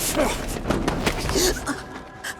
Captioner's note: grunting; panting